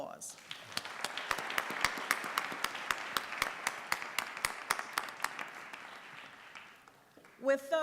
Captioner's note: applause